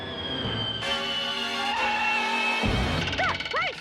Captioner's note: feet screeching